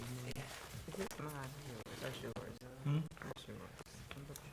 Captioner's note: board chatting quietly